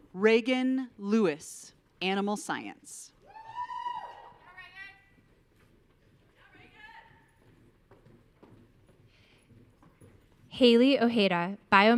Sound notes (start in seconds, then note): 3.3 audience cheering; 5.9 faintly speaking